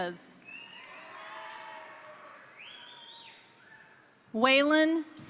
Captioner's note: crowd cheering; crowd applauding